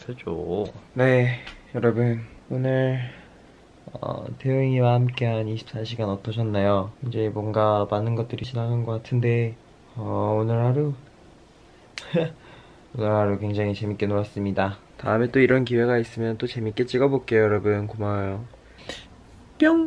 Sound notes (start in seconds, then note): 12.0 chuckles